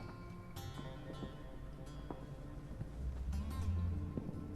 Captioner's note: none